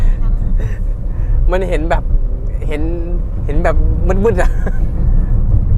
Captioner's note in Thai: หัวเราะ